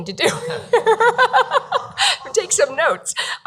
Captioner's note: laughing